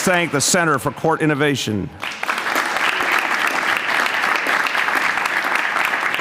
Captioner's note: applause